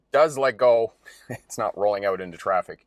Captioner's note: laughs